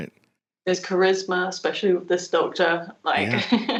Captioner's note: laughs